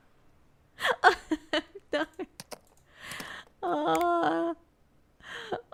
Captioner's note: laughing